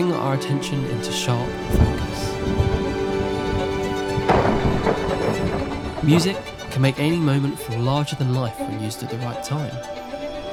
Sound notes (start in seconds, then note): 3.9 thunder